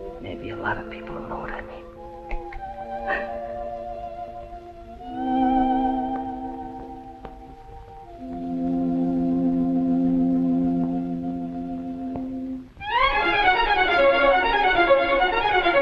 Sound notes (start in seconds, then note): 2.8 sobs - melancholic music; 12.9 uplifting music